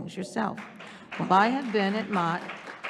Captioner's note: audience applauding